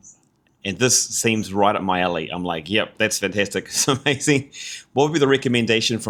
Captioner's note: laughs